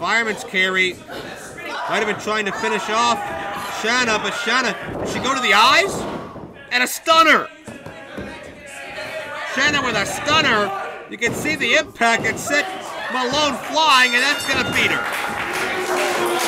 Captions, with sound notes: FIREMAN'S CARRY MIGHT'VE BEEN TRYING TO FINISH OFF SHANNA BUT SHANNA-- DID SHE GO TO THE EYES? AND A STUNNER SHANNA WITH A STUNNER YOU CAN SEE THE IMPACT AND SET MALONE FLYING AND THAT' (BELL RINGS) GONNA BEAT HER